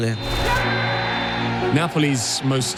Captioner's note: final whistle, cheering